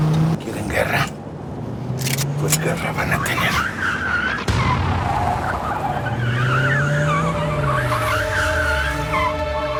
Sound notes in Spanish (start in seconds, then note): 1.9 Chirrido de llantas